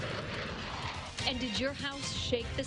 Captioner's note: nats of fly over